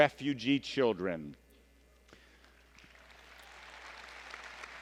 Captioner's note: applause